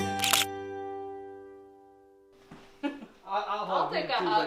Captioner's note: camera snaps